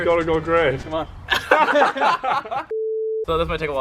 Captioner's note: all laugh